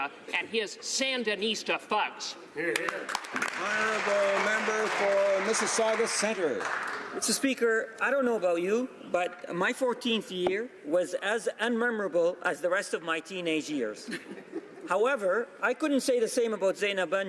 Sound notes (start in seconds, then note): 6.1 some Applause